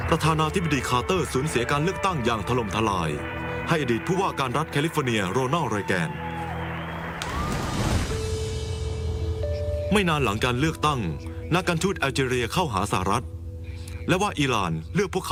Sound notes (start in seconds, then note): 7.7 applause